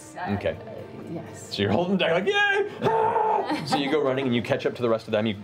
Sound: yelling

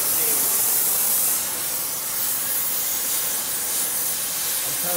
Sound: loud hissing continues

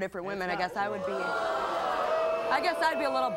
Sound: crowd boos

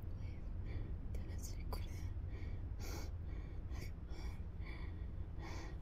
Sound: Janet speaks Spanish

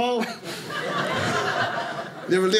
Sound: audience laughing

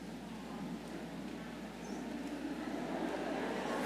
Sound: crowd murmurs

